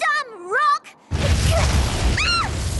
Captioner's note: rumble